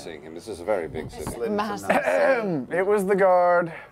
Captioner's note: clears throat